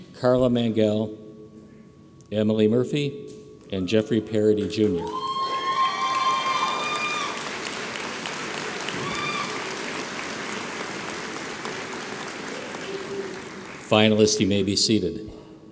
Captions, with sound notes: Carla Mangual. Emily Murphy. And Jeffrey Paradee Junior. (audience applauds) Finalists, you may be seated.